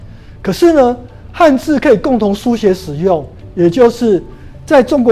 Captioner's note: chinese words